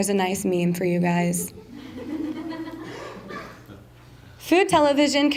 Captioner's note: laughter'